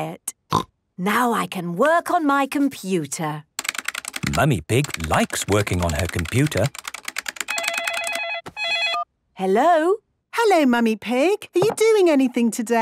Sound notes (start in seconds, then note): 0.0 snorting; 7.3 phone ringing